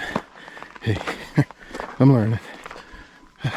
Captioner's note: laughter